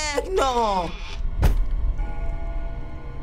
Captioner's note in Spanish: Puerta se cierra; música misteriosa construye